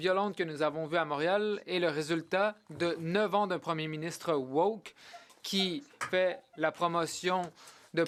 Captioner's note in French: voix de l'interprète